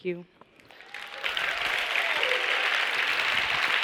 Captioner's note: applause